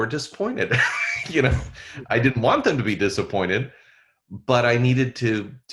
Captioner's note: laughs